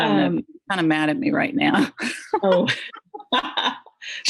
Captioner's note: laughs